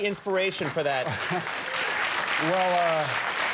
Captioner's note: audience clapping